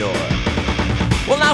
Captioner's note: knock-knock-knock-knock-knock-knock-knock